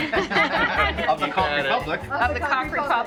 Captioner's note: laughing